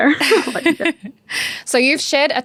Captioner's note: laughs